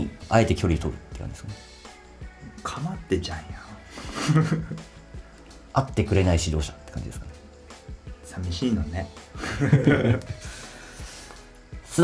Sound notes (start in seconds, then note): 3.9 laughs; 9.4 laughs